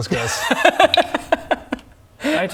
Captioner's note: laugh of little faith